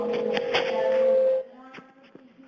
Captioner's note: microphone feeds back